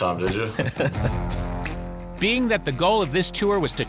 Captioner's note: chuckling